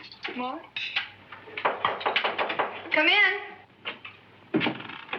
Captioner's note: door knocks